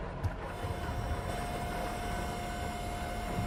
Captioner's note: thunderstorm continues